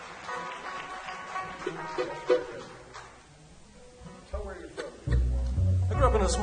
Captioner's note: audience applause